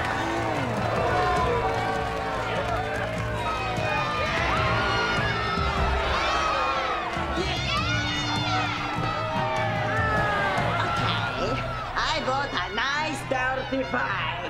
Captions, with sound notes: [booing] [cheering] [booing] Okay, I want a nice dirty fight.